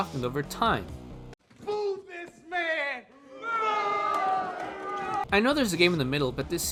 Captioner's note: booing ensues